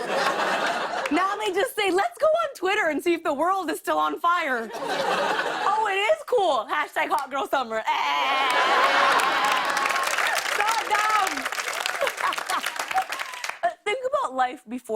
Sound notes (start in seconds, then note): 8.2 laughter and applause